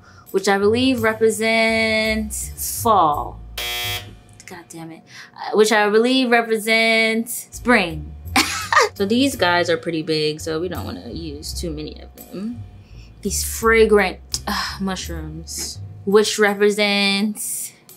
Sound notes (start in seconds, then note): 3.5 buzzer buzzing; 8.4 laughs